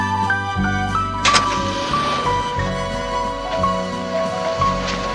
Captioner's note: engine rumbling